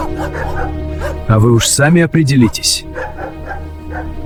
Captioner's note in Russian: плач